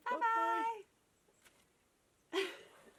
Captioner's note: laughs